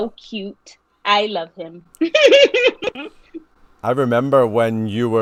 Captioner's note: laughing